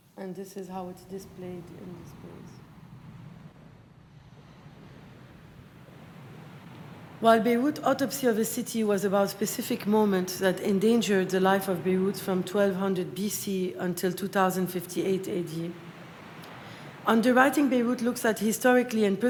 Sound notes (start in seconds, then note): 3.0 water rushing